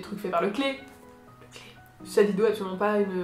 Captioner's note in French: chuchotte